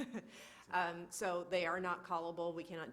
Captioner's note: laughs